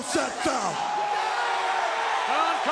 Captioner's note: crowd cheering